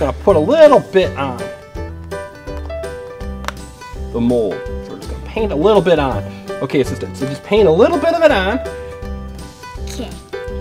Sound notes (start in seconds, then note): none